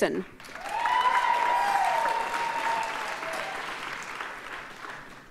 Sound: audience cheers and applauds

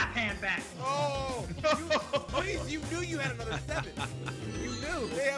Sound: laugh

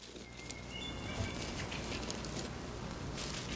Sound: birds chirping

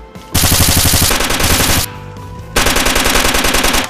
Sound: guns firing

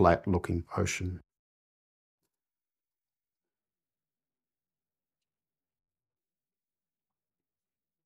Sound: silence

